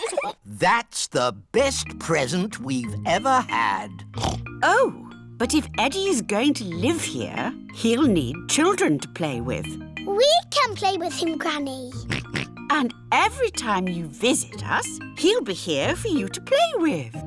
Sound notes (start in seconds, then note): 0.0 both giggle; 4.1 oinks; 12.0 oinks